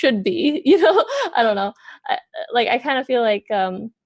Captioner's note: laughs